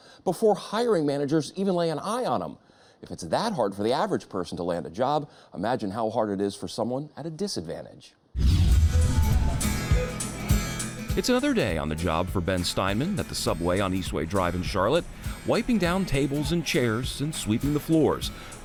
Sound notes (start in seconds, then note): 8.3 rapid whooshing; 8.6 upbeat music